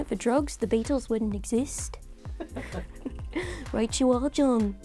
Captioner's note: laughing